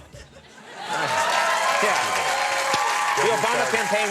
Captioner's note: crowd applauding